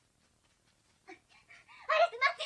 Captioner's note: SFX: panting